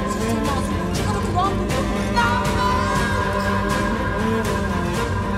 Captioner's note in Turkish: Bağırışlar